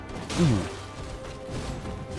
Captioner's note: grunts